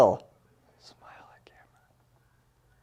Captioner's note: whispers